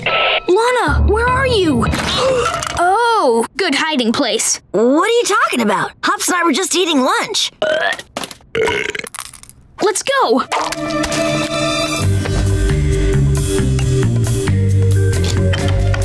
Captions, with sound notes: Lana, where are you? [gasping] Oh, good hiding place. What are you talking about? Hops and I were just eating lunch. [belching] Let's go!